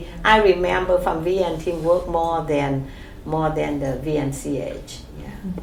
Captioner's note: laughs